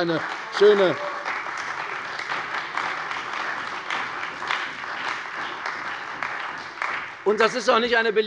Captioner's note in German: Beifall bei der CDU